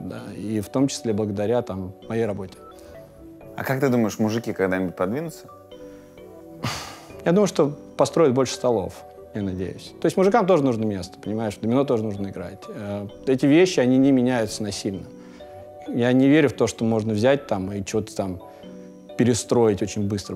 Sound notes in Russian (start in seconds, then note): 6.6 коротко вздыхает